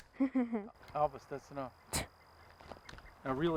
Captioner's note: Elvis laughs; Elvis scoffs